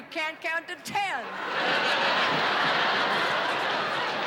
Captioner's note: laughter